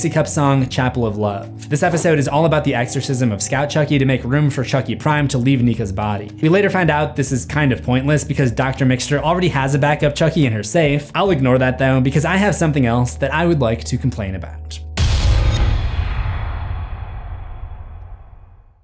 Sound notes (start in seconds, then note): 15.0 impact